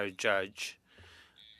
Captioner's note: speaking French